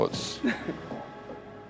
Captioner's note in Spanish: Risas